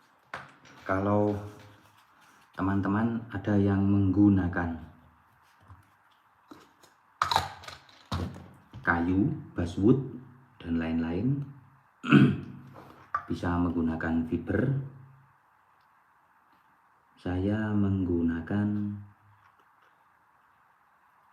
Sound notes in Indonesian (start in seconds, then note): 12.0 berdehem